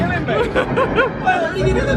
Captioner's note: laughs